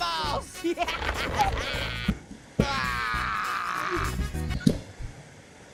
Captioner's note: Orange laugs